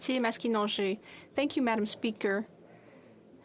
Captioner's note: speaking French